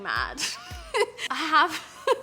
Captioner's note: laughs loudly